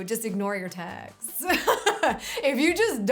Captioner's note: laughs